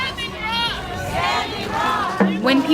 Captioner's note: crowd Repeating